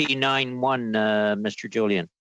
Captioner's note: speaking French